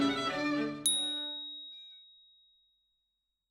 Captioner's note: bell dings